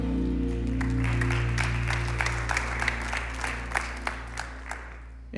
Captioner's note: congregation clapping